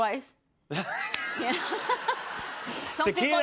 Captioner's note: laughter